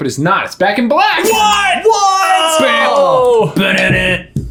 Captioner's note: groaning